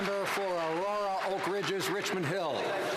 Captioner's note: some Applause